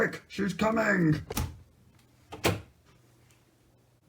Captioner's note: door opening